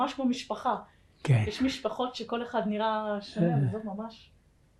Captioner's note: hebrew